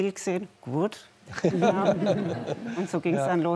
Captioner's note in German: Lachen